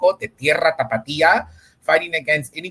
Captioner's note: speaks in Spanish